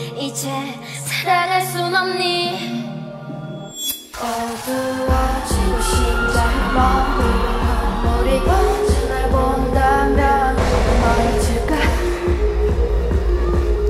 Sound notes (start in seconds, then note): 9.0 crowd cheering